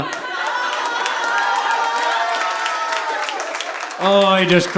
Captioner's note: audience laughing